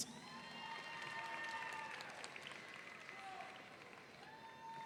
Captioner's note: audience cheering